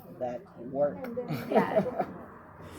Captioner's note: laughs